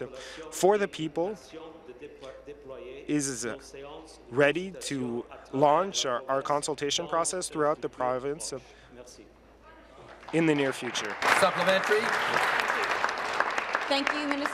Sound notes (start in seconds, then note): 0.6 speaking in French